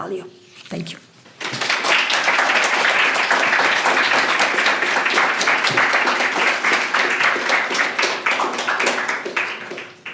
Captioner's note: applause